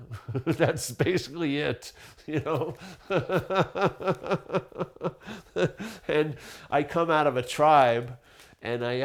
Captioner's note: laughing